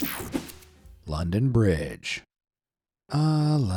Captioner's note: air fizzing